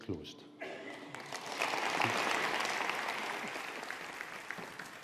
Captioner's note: audience applauding